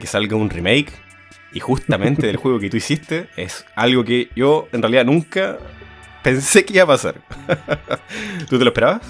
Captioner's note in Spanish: risas